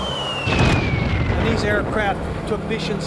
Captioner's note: bomb explodes